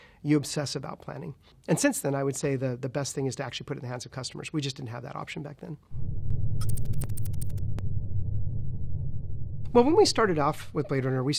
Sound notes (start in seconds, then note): 6.6 electronic typing